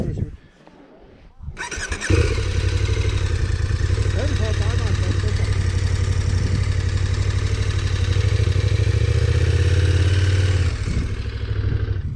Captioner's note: engine noise